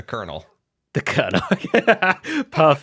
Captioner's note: laughs